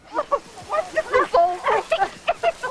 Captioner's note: giggling